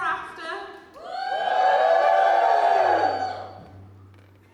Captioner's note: audience cheers